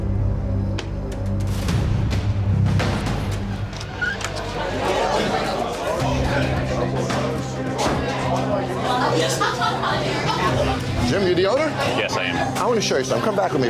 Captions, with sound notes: (dramatic instrumental music) (bar chatter) - Jim, you the owner? - Yes, I am. - I wanna show you something.